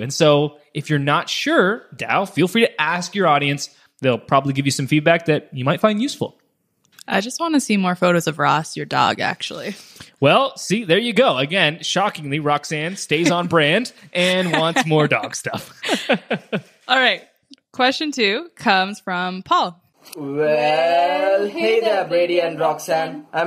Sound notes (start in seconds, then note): 15.9 laughing